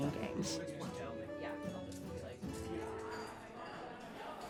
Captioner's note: chattering